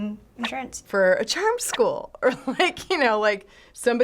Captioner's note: chuckles